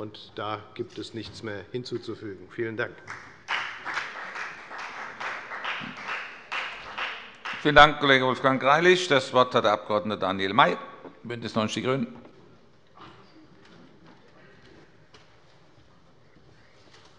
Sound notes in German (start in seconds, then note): 3.0 Beifall bei der FDP